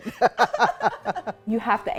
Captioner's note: both laugh